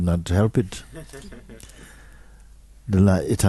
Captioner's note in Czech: smích